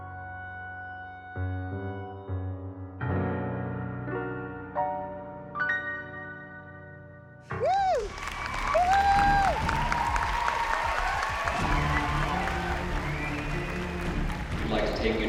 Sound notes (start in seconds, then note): 5.4 song ends; 7.6 Abby Lee whoops; 7.6 audience cheering